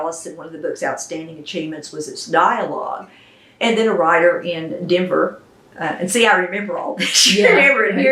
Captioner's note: laughs